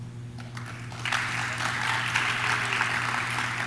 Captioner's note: audience claps